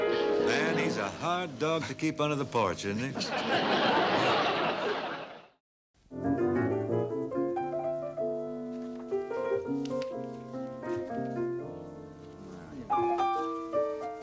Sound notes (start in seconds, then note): 3.1 audience laughing